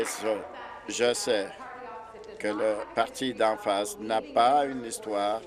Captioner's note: applause